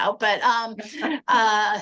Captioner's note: laughter